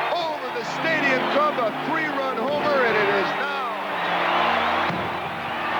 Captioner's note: crowd cheering